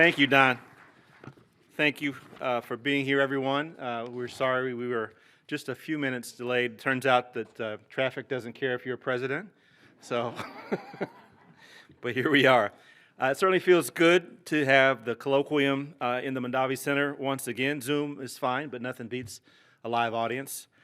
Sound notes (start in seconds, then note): 10.3 laughter